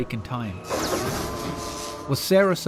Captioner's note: electricity streaks